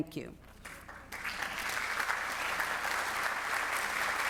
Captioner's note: students clapping